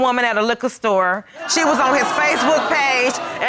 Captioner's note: audience groaning